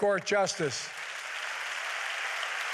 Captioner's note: applause